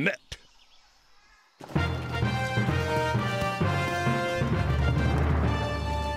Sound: footsteps approaching

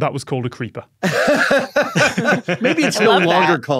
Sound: guests laughing

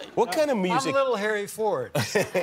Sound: laughter

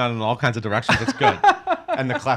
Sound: laughing

